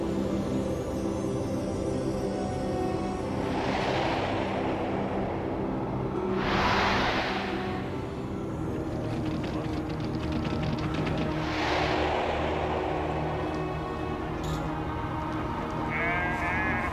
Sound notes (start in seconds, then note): 4.9 wind gusts blowing